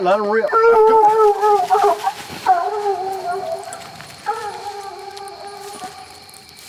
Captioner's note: dogs baying